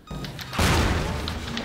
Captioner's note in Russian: взрыв